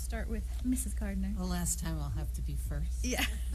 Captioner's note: laughter